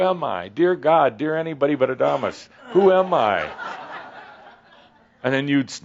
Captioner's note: laughter